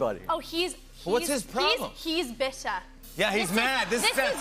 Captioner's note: none